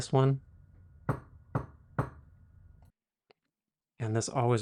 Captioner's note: knock on table